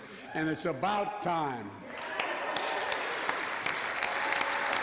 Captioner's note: applause